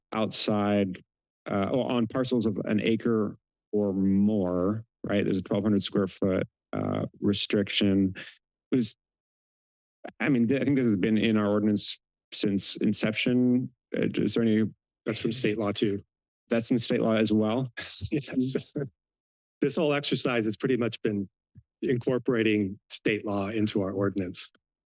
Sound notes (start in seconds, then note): 16.6 chuckles